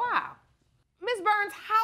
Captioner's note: none